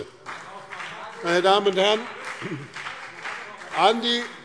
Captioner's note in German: Beifall BÜNDNIS 90/DIE GRÜNEN und vereinzelt CDU